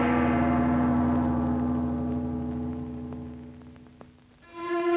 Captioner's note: gong bangs